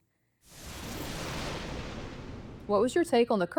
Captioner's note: thunder rumbles